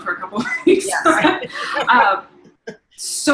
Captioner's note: laughing